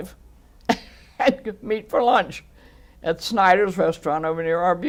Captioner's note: laughs